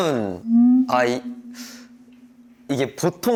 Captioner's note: hesitant